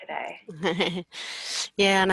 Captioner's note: laughing